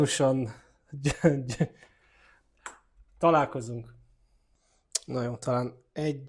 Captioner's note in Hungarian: nevetés